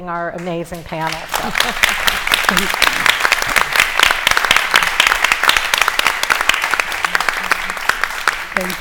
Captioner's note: applause